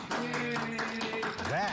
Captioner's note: applause